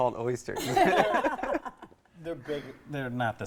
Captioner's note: laughing